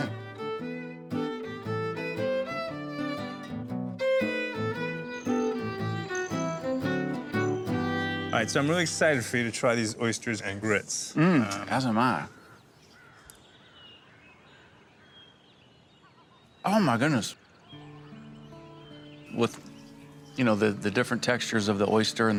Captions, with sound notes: Oysters & Grits in Bourbon Brown Butter [bugs chirping] All right, so I'm really excited for you to try these oysters and grits. As am I. Oh my goodness. With, you know, the different textures of the oyster